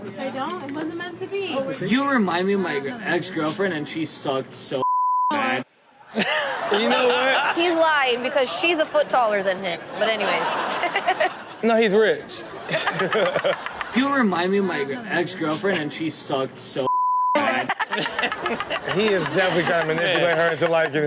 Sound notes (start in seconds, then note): 5.9 all laugh; 11.0 laughs; 12.4 Chanel and audience laugh; 17.3 Chanel laughs